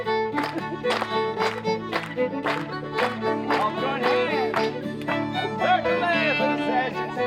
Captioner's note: crowd clapping to the music